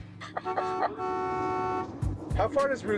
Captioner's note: horn honks